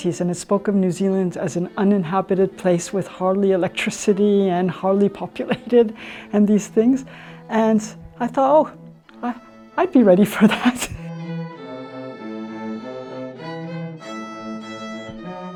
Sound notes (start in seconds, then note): 10.2 laughs; 11.8 mellow instrumental music